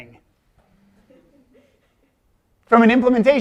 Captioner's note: chuckling